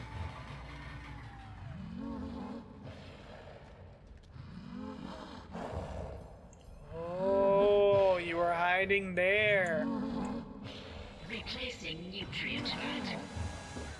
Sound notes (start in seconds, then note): 2.0 asthmatic like breathing and moaning